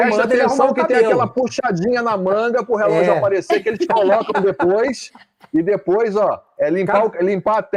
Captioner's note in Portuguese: risadas